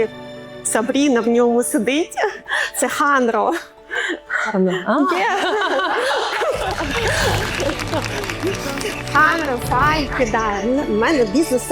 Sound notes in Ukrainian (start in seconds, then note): 3.9 сміх